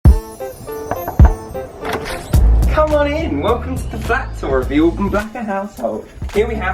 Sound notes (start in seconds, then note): 0.0 upbeat music; 0.9 knock on door